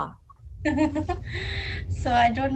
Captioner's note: laughter